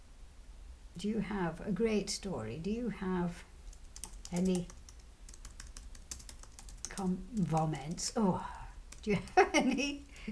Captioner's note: laughs